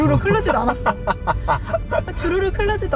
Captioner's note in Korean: 웃음소리